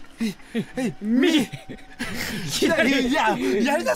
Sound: laugh

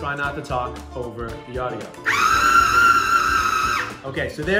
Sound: whirring

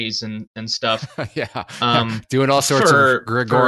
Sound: laughs

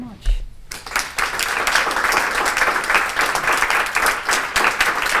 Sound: applause

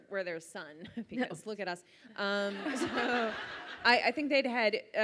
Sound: audience laughs

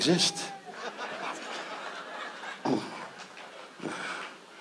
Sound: audience laughs

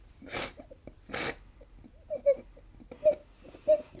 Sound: whimpering

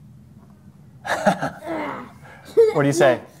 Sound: laughs

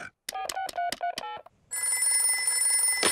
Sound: oinks; beeping; phone rings

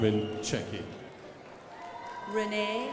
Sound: crowd applauding

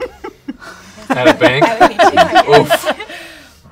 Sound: laughter

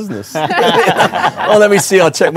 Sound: group laughing

